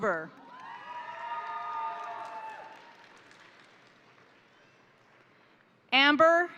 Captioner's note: crowd applauding; crowd cheering